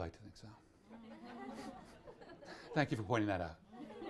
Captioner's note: audience laughs